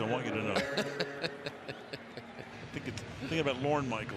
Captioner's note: laughs